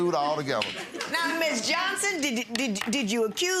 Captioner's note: audience chuckles